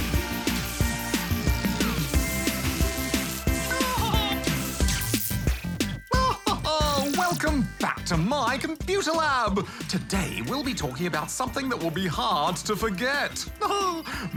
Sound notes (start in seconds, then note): 3.7 laughs; 6.0 laughs; 13.6 chuckles